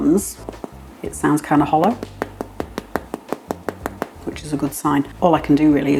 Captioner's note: tap tap tap